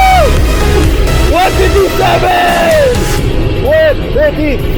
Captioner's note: cheers; cheers